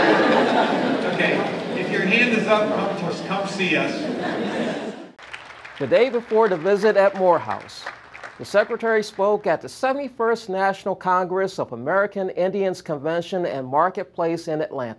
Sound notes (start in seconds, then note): 0.0 laughter; 5.1 applause